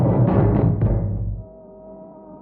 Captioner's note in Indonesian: none